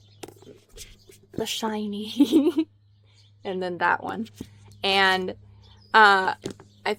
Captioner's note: laughs